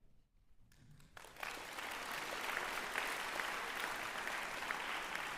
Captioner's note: applause